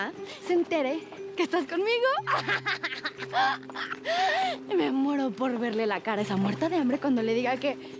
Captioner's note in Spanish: Carcajadas